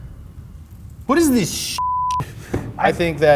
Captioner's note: beep